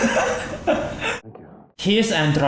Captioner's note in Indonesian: Drake Chuckles